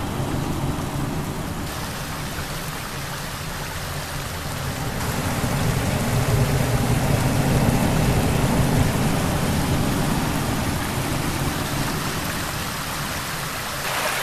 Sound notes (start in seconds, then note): 2.1 water rushing; 5.0 mysterious, rumbling music